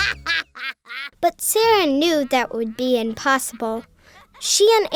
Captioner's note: voiceover